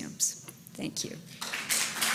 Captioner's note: applause